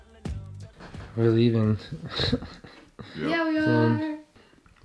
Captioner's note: laughs